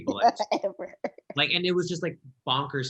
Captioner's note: laughing